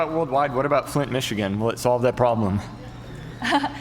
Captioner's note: laughs